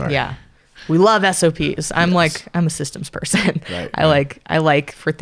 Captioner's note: laughs